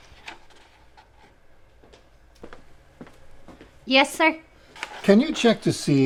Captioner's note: footsteps approaching